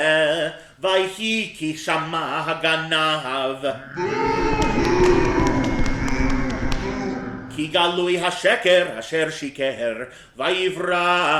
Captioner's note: boo!